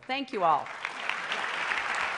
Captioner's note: applause